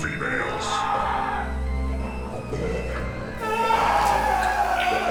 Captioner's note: victim screaming